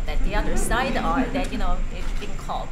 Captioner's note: laughter